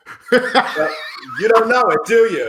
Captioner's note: laughing